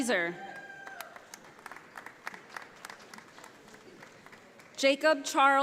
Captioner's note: audience applauding